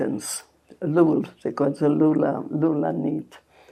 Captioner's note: hebrew